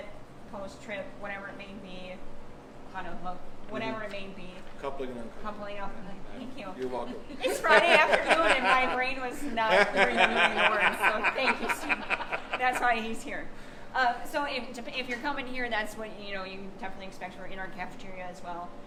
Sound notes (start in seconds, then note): 10.2 laughing